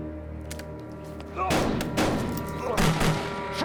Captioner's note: gun cocks; gunfire, groaning